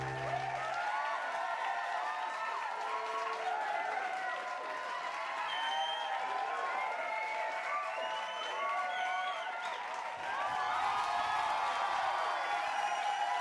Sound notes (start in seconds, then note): 0.0 crowd cheering and clapping